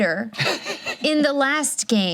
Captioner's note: laughs